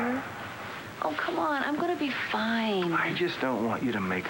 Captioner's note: sam sighs